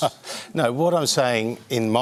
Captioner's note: chuckles